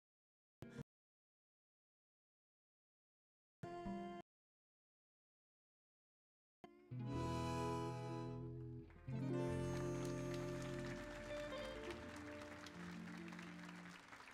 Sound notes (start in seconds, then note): 0.3 continues singing in Spanish; 9.0 audience applauding